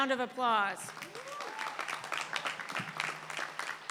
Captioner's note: applause